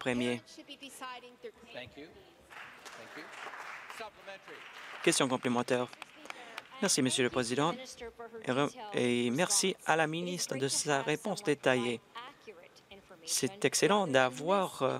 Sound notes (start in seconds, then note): 6.9 applause